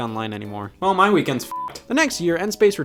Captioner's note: beep